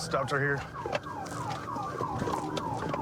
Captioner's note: sirens blaring